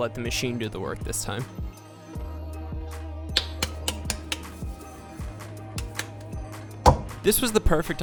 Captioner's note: slapping, rubbing and plopping noises